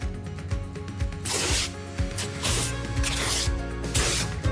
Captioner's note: tape scratching